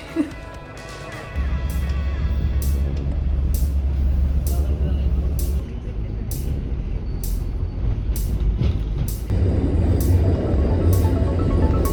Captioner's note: and train noises